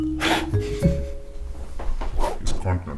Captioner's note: blows; laughs